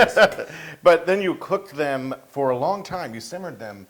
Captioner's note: laugh